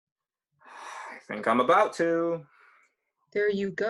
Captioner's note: sigh